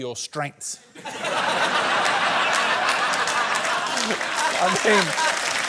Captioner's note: laughter, applause